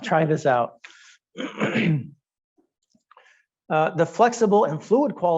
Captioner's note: clearing throat